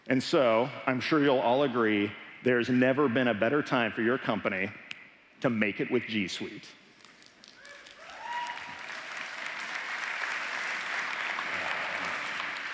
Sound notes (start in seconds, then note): 7.4 applause